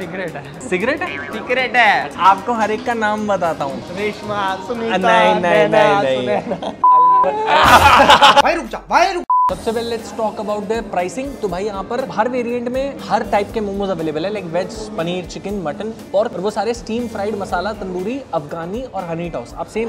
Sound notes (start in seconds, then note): 6.8 beep; 7.2 laughing